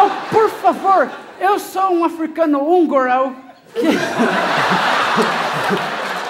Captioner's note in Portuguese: sotaque estranho